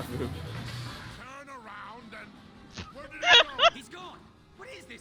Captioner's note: laugh; laughs